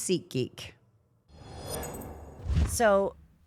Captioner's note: scene whooshing